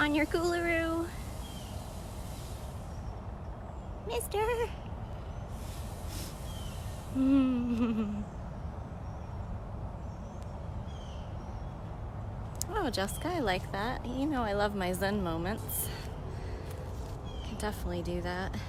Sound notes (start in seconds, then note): 7.2 laughs